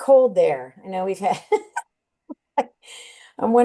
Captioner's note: chuckles